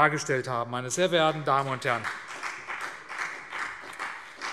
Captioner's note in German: Beifall CDU und BÜNDNIS 90/DIE GRÜNEN